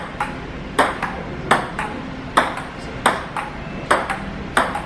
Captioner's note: ball thumping